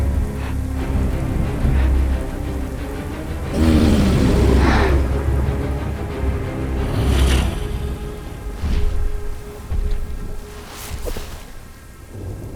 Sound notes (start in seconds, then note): 0.0 sniffs; 3.4 growling; 6.6 grunting